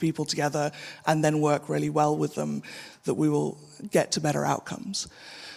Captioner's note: none